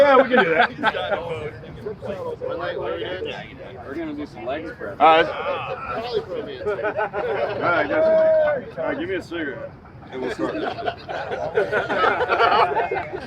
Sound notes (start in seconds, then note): 0.0 veteran laughing; 4.7 laughing; 9.4 group laughing